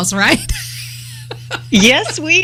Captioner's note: laughter